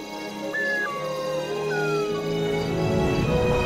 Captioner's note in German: Heuschrecken zirpen; Tier heult; ätherische Musik